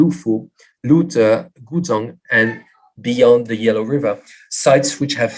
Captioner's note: non-english